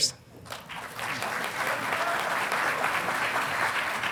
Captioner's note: audience applauding